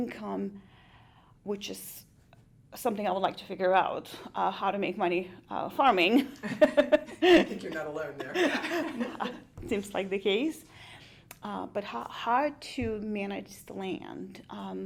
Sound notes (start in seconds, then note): 6.4 laughs